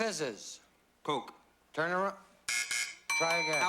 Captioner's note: buzz buzz